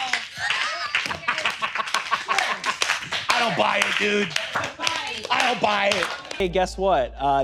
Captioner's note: room applauds; applause gets louder